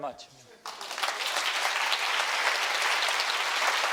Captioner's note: applause